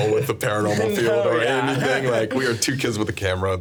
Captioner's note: laughing